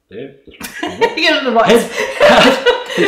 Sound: laughing

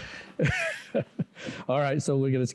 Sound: laughs

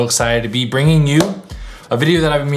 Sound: claps

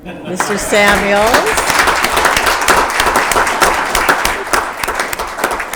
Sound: attendees applauding

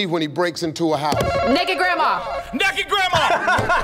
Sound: buzzer rings; laughs

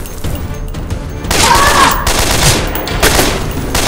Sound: screaming furiously

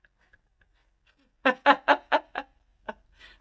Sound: laughter

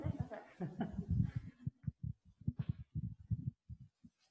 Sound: chuckling

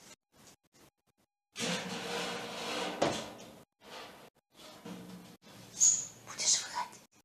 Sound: the sound of the movement of the rack on the floor

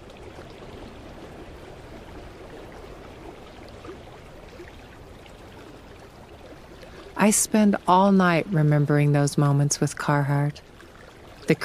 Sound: water running

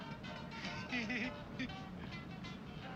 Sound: laughs

